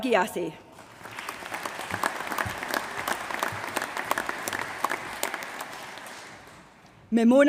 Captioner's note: applause